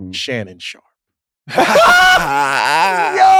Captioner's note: laugh